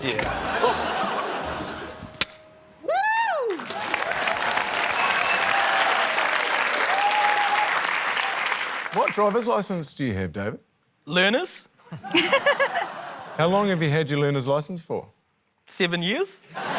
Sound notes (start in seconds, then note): 4.9 cheering, applause; 11.8 laughter; 16.5 laughter